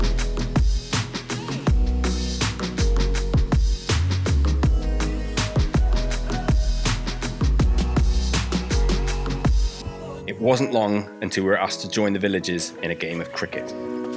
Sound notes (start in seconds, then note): none